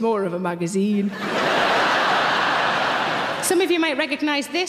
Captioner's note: audience laughing